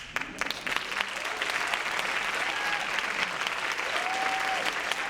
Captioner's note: audience cheering